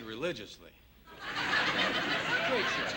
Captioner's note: laughter